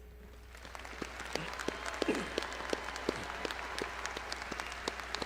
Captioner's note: crowd applauding